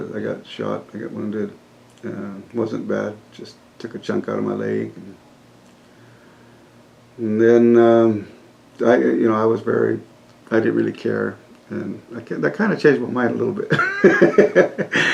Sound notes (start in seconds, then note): 13.7 laughs